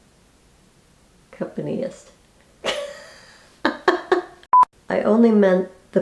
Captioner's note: laughing